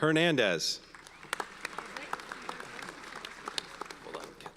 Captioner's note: audience applauds